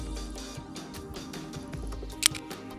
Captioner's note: click sound